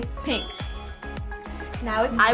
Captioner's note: ding